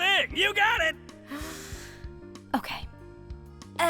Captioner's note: deep inhale